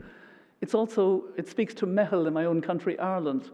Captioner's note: non-english